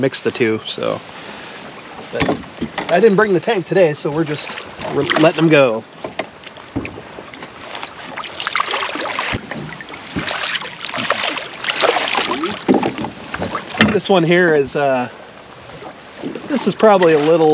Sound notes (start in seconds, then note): 6.9 fish splashing